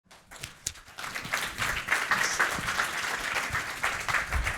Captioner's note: applause